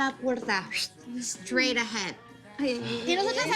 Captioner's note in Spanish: Silbido